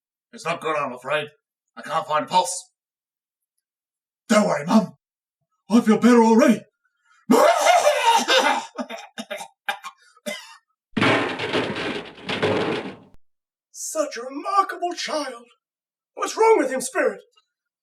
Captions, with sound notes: It's not good, I'm afraid; I can't find a pulse! Don't worry, Mum! I feel better already! [Coughs violently] [Trashcans banging] Such a remarkable child! What's wrong with him, Spirit?